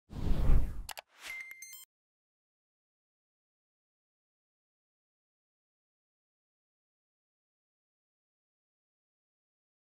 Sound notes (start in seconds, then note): 0.1 whooshing tones